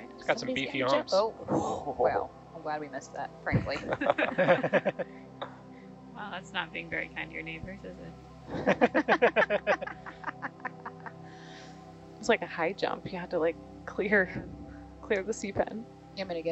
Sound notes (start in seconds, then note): 3.6 laughing; 8.5 laughing